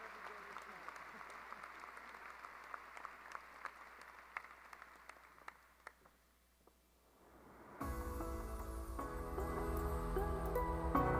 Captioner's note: applause